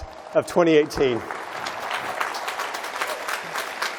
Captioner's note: applause